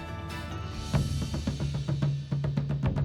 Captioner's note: whoosh!; drumbeat